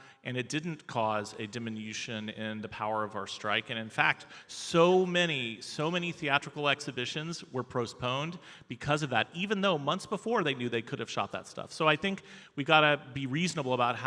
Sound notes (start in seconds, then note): none